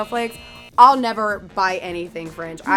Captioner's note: buzzer noise